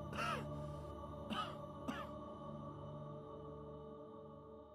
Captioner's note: coughing